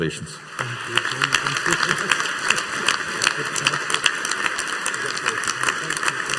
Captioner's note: audience applauding